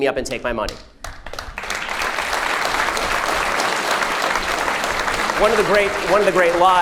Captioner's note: crowd applauds